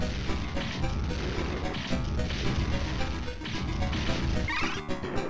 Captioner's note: fireworks projectile